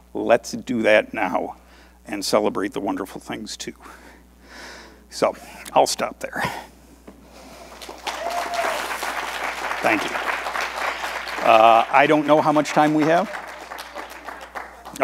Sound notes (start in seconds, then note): 7.6 audience applauding